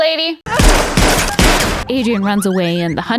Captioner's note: gun firing